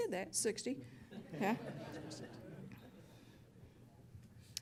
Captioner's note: laughter